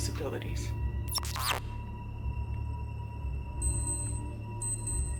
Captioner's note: anomaly buzzes